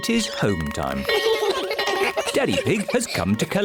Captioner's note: all giggle